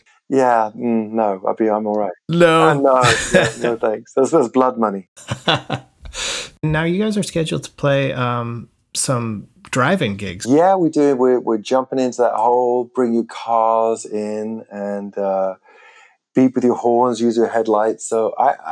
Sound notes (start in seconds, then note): 0.3 laughter; 5.2 laughter